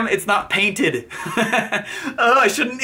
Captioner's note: laughs